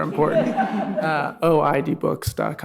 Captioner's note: audience laughing